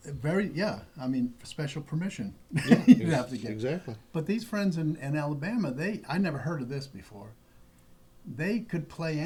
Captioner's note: laughter